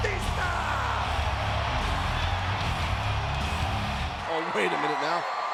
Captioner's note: upbeat rock music continues; crowd cheering continues